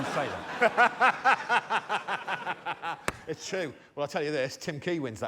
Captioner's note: laughter